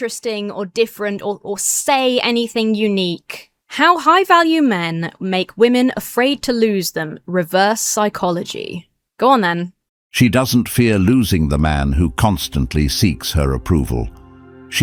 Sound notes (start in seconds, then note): 10.2 AI Voice